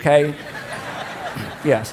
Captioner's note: congregation laughs